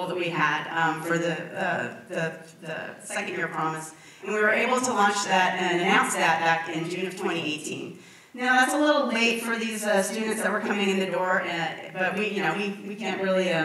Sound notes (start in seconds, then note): none